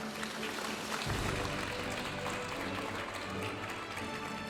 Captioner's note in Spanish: aplausos de la audiencia